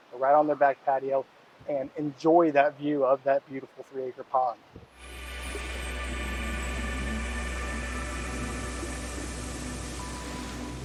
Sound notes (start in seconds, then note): 4.9 gentle ambient music; 5.2 soft water sloshing